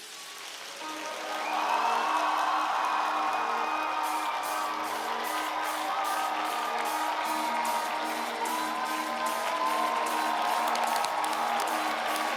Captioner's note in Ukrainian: оплески